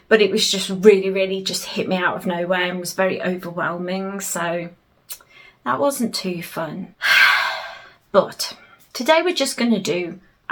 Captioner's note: sigh